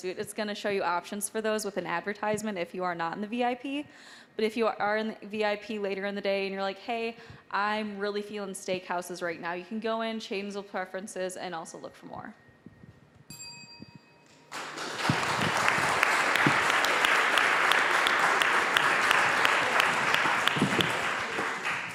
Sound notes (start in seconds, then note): 13.3 bell dings; 14.4 applause